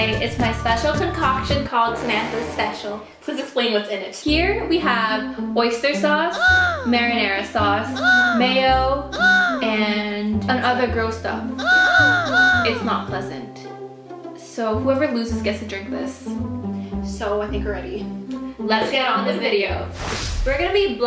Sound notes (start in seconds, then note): 2.6 foreboding music; 6.2 shocked gasp; 11.4 shocked gasp; 19.9 whooshing